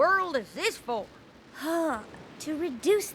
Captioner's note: sighs